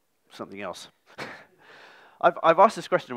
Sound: laughs

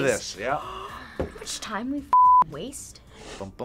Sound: gasps

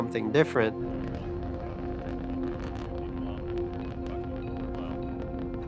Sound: rocket engines firing

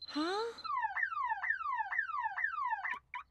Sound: squawk; beeping

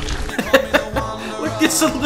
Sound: laugh

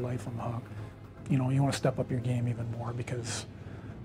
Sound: voiceover

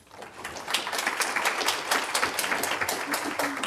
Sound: applause

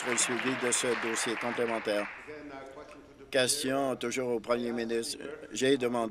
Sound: some Applause

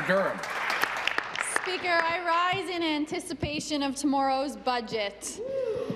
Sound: some Applause

